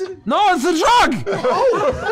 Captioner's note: slurred; laughter